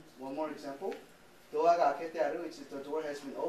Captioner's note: speaking japanese